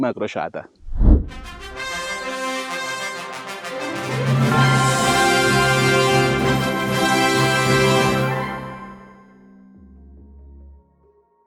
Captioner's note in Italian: Applauso